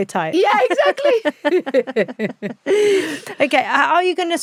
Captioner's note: both laughing